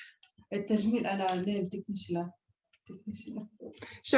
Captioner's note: non-english speech